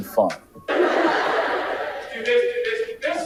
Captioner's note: audience laughing